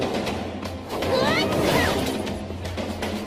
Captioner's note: grunts